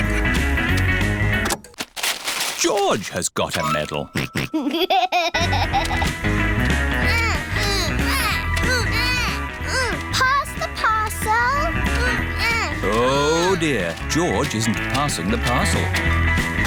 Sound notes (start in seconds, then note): 4.1 snorts and laughs; 7.0 both grunting